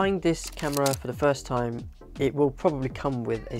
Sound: shutter clicking

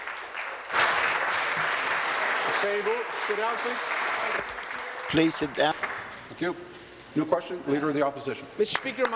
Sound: applause

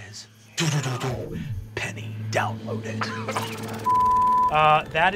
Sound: mimics swound waves; beep

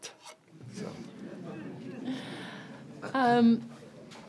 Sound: laughter

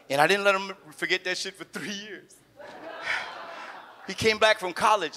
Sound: audience laughs

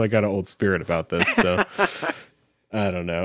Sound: laughing

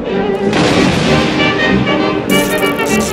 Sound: lighting Strike

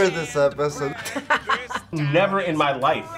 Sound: laugh

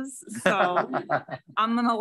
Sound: laughs

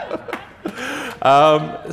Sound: laughter

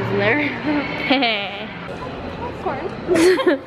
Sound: chuckles

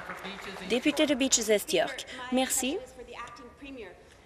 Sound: applause

